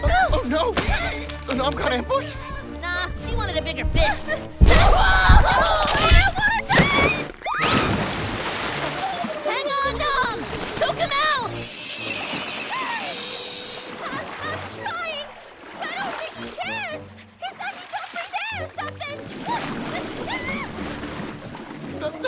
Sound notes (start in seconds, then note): 8.5 Nom drowning; 13.3 coughing sputtering